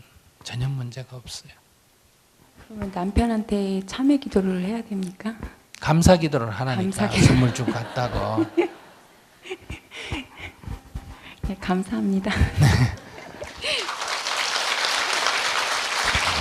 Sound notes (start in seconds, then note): 8.5 audience Laughter; 8.5 questioner Laughter